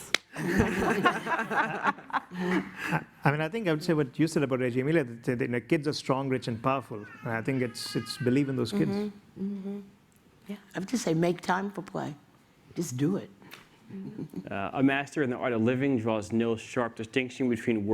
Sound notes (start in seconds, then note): 0.3 laughter; 14.0 laughs